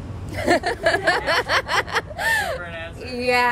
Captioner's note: laughter